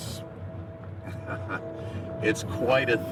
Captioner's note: chuckles